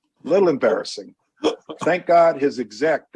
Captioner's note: laughter